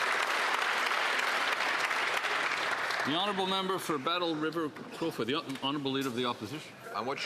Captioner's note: some Applause